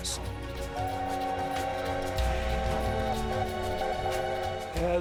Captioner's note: train whistle blows